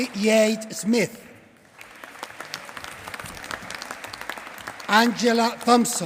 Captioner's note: applause